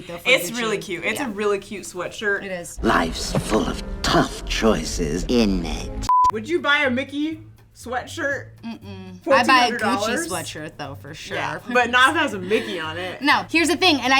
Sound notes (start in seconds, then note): 6.0 beep